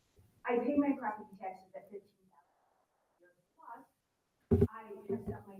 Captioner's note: faintly speaking